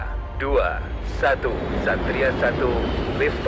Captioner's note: speaking indonesian